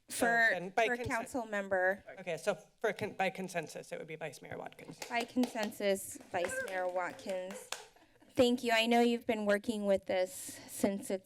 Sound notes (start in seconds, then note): 6.1 applause; 7.4 laughter